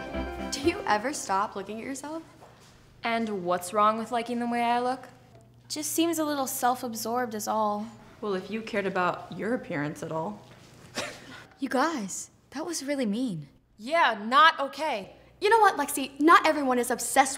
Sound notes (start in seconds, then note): 11.1 laughing